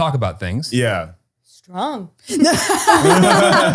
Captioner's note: laughter